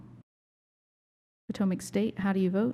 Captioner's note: silence